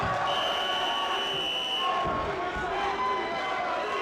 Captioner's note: crowd cheering; whistle blowing